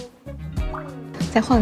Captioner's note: swinging